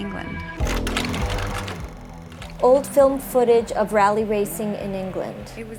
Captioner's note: film projector rattles